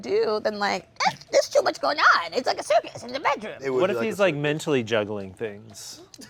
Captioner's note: none